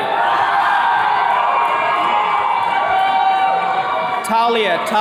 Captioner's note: attendees cheering